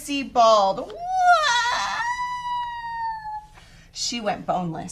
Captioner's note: mimics child crying